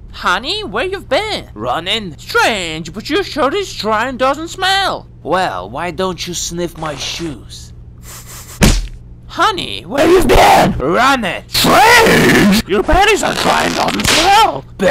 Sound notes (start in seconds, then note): 8.0 sniff sniff